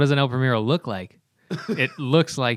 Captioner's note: laughter